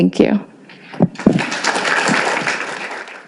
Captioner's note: applauding